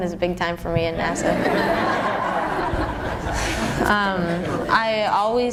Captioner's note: laughter